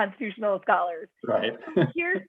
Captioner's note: laughter